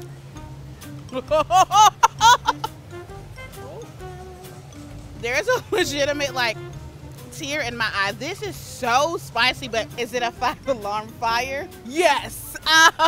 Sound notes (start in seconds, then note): 1.1 laughs